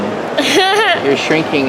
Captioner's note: laughs